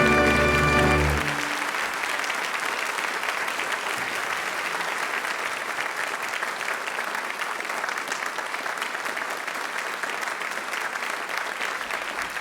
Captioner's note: applause